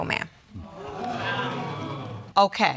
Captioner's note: audience exclaiming